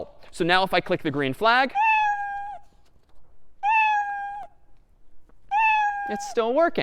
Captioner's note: meowing three times